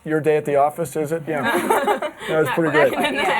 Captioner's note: laughter